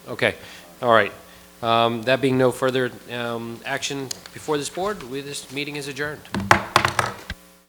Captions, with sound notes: Okay. All right. That being no further action before this board, this meeting is adjourned. (gavel thumping)